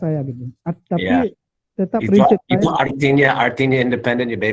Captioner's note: non-english speech